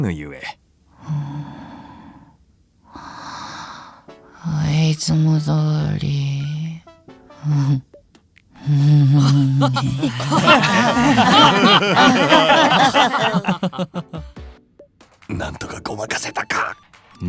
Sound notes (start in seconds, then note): 9.2 fake laugh